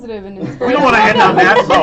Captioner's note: laughter